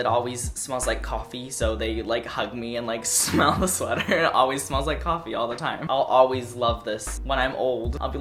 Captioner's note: laugh